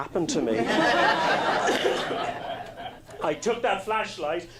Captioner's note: laughing